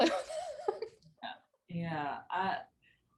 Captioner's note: laughing